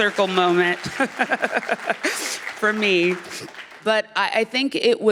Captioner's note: laughter